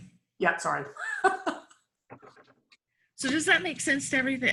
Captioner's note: laughs